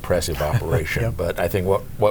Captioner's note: laughs